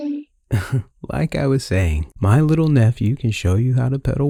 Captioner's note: chuckle